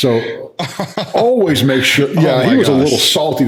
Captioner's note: laughing